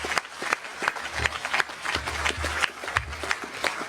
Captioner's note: applause